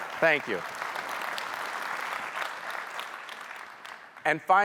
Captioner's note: audience applauding